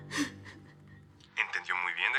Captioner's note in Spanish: Clara solloza